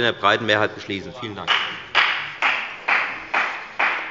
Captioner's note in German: Beifall bei der FDP